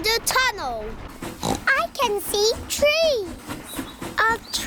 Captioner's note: oinks